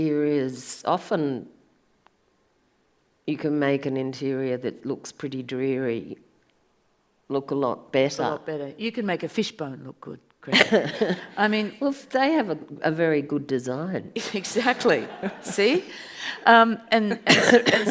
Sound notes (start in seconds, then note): 14.5 audience laughs